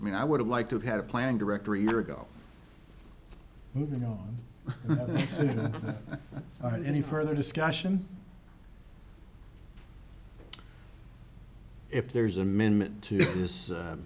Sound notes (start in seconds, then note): 4.6 laughs